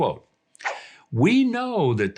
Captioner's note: air whooshes